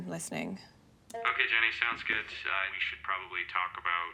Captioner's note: online male voice